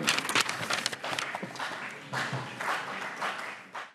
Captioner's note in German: Beifall CDU und BÜNDNIS 90/DIE GRÜNEN